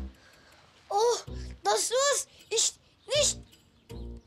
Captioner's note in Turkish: Almanca konuşma